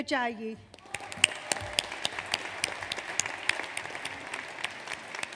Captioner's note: audience applauds